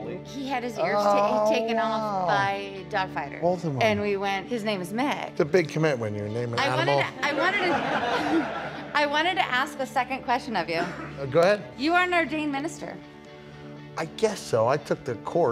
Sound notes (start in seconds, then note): 7.3 laughter